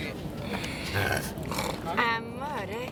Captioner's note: grunt